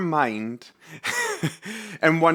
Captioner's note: laughing